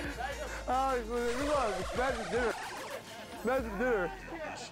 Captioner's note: speaking Japanese